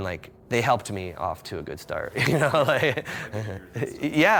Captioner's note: laughs